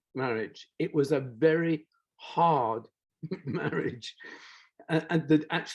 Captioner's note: chuckles